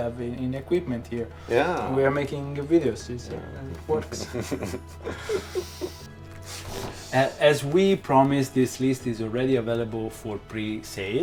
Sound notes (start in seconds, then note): 3.8 keeps laughing